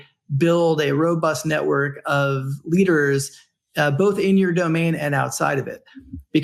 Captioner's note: none